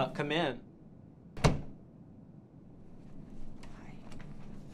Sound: knock on door

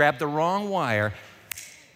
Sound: snaps fingers

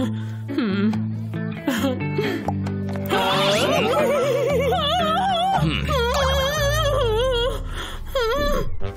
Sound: coughing

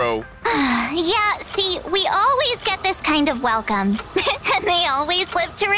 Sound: sigh

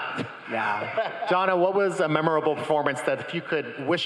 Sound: crowd laughing

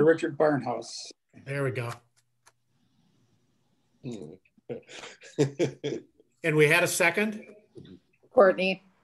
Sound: laughter

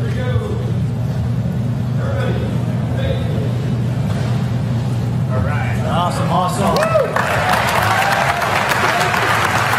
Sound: applause

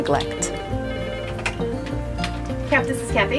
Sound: phone ringing

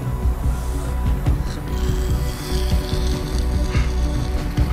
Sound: suctioning

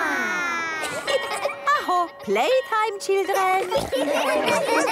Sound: school bell

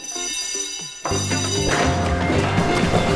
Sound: alarm bell rings

